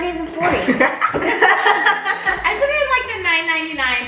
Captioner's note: older kids laugh